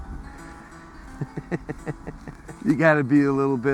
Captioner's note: chuckling